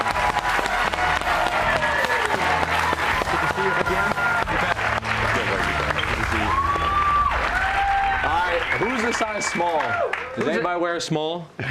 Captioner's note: crowd cheers